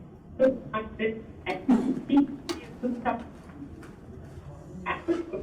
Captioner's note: speaker audio distorted